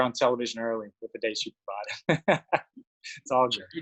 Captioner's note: chuckles